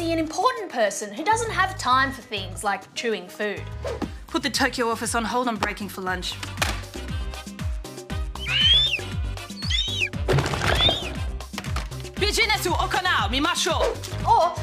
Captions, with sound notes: who doesn't have time for things like chewing food. Put the Tokyo office on hold - I'm breaking for lunch. (Eagle screeches) (Speaks Japanese) Or you might feel like